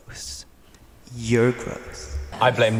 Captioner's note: echoing